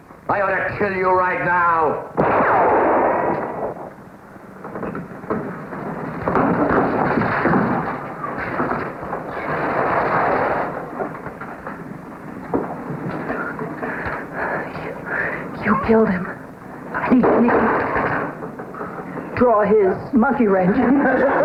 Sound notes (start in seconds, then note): 2.1 gunfire blasts; 6.1 body thuds; 21.2 crew laughs